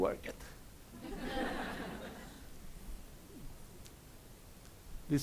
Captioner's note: audience laughs